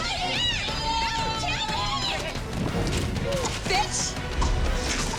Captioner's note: clamoring